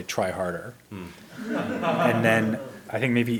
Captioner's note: audience laughs